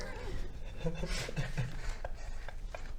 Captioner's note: nervous giggles